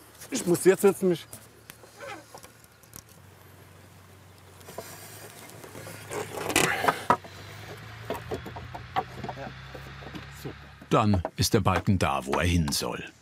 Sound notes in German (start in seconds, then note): 5.2 Knarzen, Ächzen